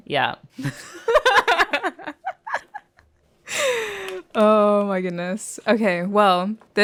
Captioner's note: laughter